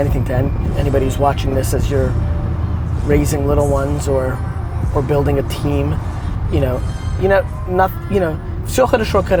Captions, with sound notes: anything to anybody who's watching this as you're raising little ones or building a team (speaking Russian).